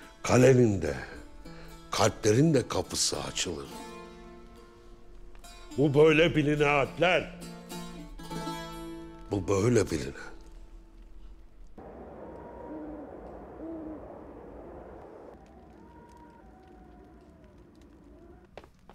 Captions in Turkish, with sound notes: ...kalenin de... ...kalplerin de kapısı açılır. Bu böyle biline Alpler! (Müzik - Hüzünlü) Bu böyle biline! (Rüzgâr sesi)